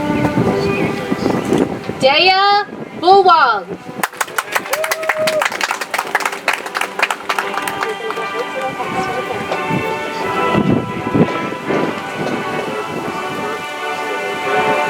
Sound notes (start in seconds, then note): 4.0 audience applauds; 7.8 soft music